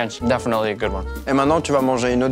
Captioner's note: speaks French